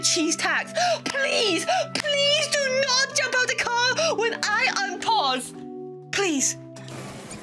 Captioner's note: clap